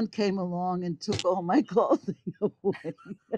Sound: laughs

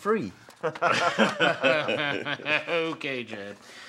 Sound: Gates and Travis laugh

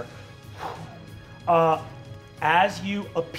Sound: blowing

